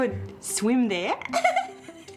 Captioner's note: giggles